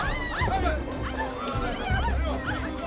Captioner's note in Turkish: Bağırma sesleri; Bağırma sesleri